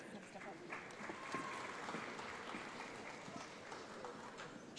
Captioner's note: audience applauds